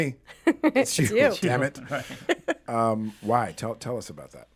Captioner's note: laughs